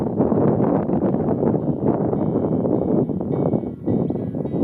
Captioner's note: wind blowing